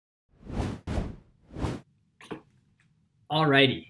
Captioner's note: air whooshing